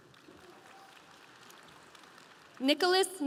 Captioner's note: audience applauding